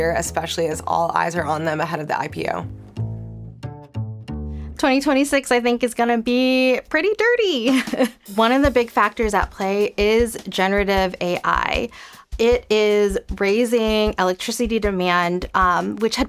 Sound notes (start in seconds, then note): 2.9 lighthearted music; 7.7 chuckling